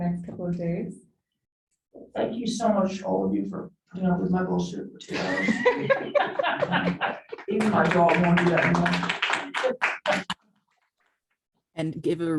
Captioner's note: laughter, applause